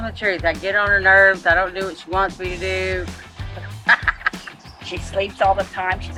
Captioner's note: laughs